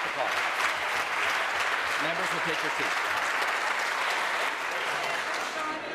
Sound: applause

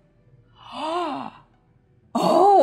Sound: gasps

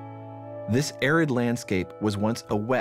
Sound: voiceover

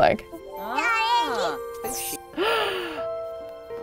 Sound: baby cooing; gasps

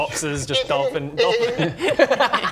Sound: aquatic sheep noises

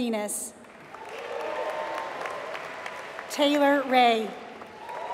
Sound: applause

